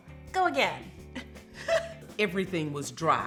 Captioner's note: giggles